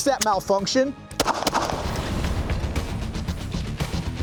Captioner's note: gun fires